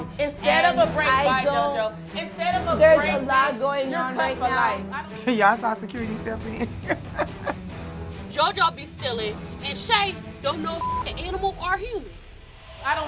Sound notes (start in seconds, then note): 7.7 laughs; 10.8 beep